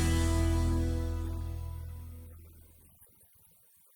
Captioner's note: footsteps receding